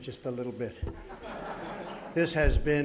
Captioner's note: laughter